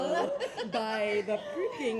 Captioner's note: laughs